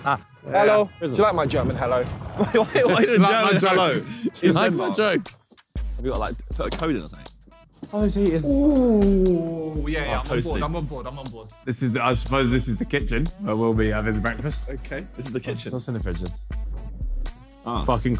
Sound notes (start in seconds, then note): 0.0 all laughing; 2.3 all laughing; 2.7 indistinct chattering